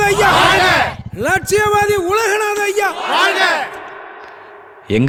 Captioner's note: slogan shouting